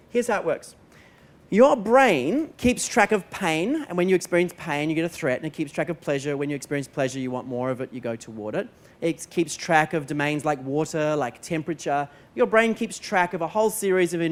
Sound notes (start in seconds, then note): none